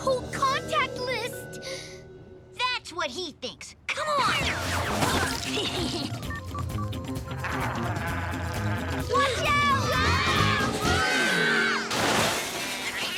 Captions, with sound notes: MY WHOLE CONTACT LIST! THAT'S WHAT HE THINKS; COME ON! [growling] WATCH OUT! WHOA!! WHOA!!